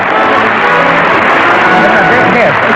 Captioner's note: applause